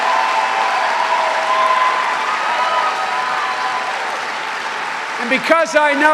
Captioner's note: cheering and applause